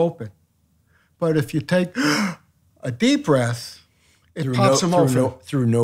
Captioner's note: inhales